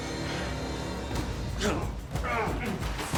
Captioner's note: grunting